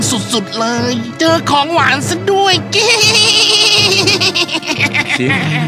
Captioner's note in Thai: หัวเราะ